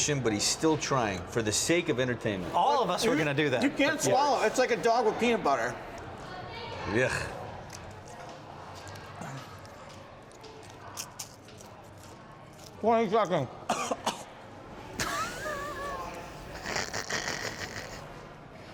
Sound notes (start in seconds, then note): 10.7 crunching; 13.7 coughing; 15.0 laughing